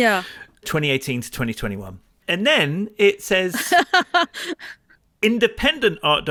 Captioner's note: laughing